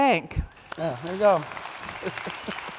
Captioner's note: audience applauding